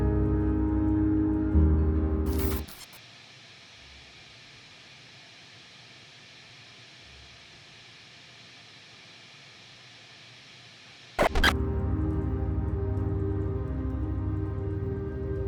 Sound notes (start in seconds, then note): 2.2 static humming; 2.3 static crackles; 11.2 static crackles; 11.5 brooding music